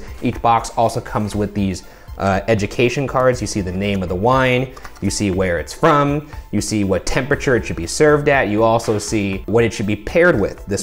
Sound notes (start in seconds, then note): none